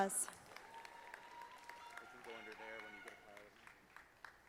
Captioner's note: audience applauding